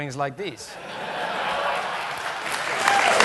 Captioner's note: laughter; applause